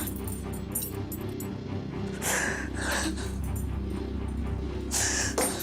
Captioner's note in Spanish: Sollozos